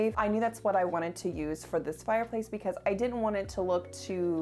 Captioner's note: none